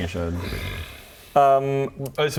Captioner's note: woe-is-us sigh